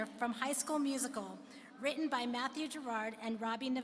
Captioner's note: none